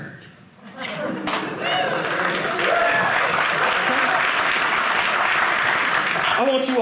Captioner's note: audience cheering